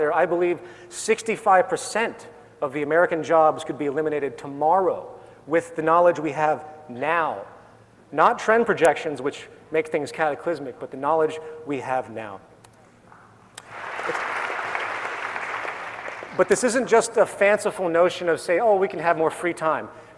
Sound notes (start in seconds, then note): 13.6 applause